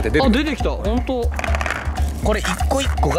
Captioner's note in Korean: 떼구르르